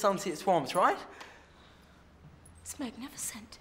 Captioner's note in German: schnappt vor Ehrfurcht nach Luft